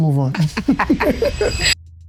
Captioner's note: laughter